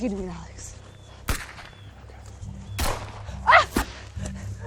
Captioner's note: gun bangs; Andrea screams